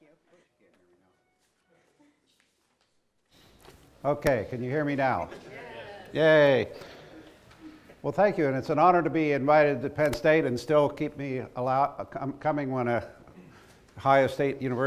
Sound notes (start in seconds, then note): 5.2 laughter